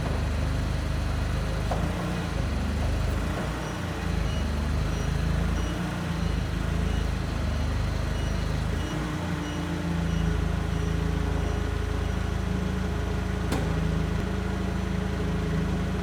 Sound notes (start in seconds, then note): 4.4 engine rumbling; 4.4 forklift beeping